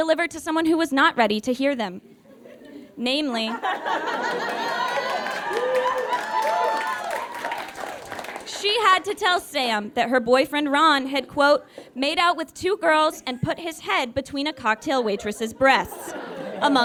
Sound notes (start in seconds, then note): 3.6 audience laughs, then cheers and applauds